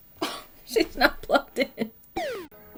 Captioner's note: scoffs; soothing scanner noise